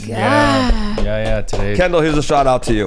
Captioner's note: clapping